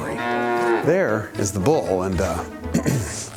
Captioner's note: clears throat